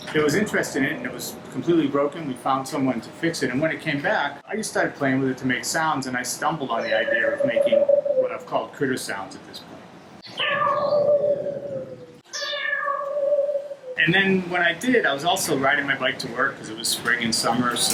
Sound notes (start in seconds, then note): 10.2 synthesized animal noises